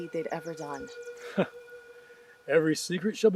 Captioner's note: chuckles